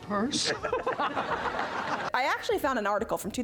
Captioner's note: both laugh